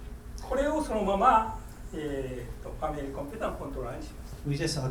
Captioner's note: speaking in foreign language